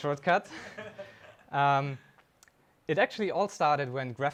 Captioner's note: attendee laughing